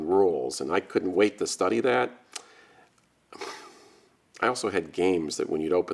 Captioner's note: sighs